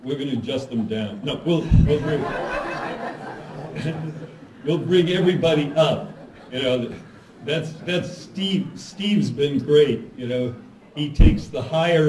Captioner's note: laughter